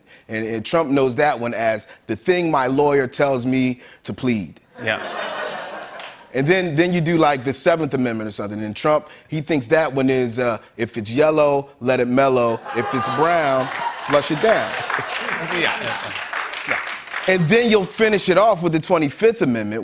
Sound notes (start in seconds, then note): 4.8 laughter; 12.6 laughter and applause